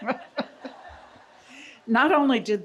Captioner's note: laughing together